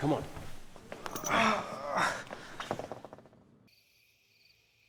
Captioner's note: Jesse whimpers in pain; crickets chirping